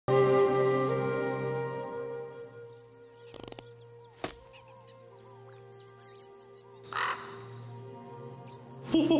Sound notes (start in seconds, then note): 3.6 fart; 5.8 bird squawks